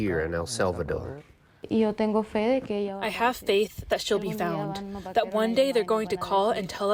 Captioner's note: through translator